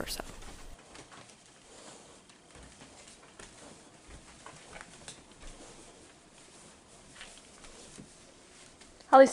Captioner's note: steps